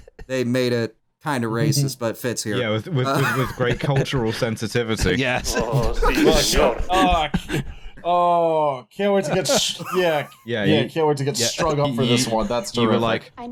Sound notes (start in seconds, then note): 6.6 laughter